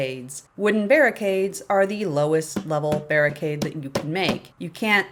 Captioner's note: tap, tap, tap, tap, tap, tap